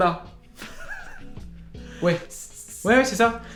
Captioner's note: laughs